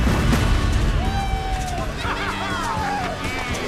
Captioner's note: cheering